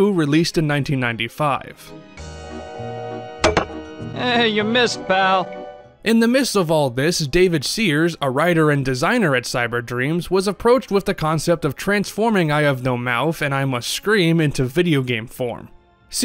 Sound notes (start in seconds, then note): 3.4 thunk